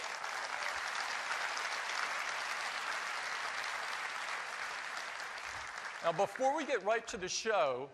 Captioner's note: applause